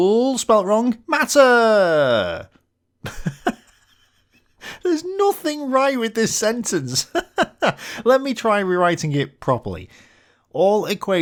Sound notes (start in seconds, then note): 3.0 laughs!